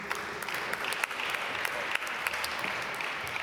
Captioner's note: applause